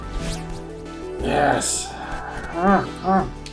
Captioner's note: growling